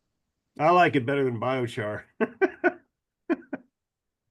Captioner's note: laughs